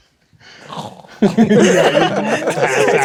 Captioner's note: imitates snoring; players laughing